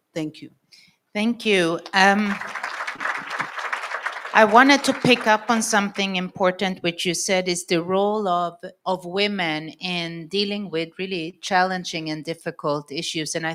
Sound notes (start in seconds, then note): 2.0 audience applauds